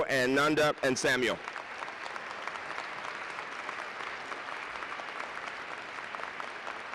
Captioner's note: applause